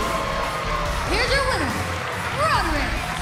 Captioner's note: bell ringing